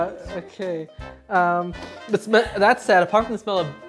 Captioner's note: sniff